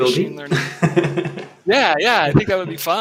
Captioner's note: laughing